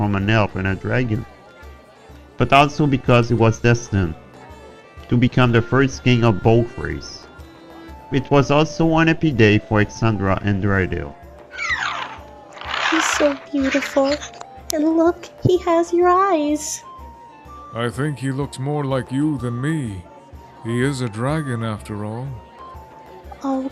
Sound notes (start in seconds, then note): 11.5 baby dragon sound